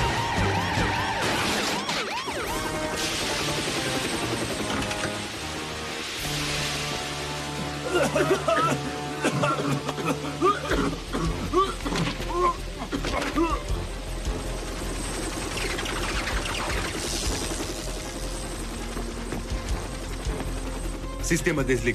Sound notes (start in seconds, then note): 2.6 siren; 10.7 coughing